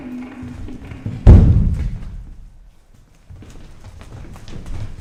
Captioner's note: bomb explodes